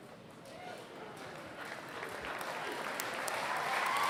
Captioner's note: applause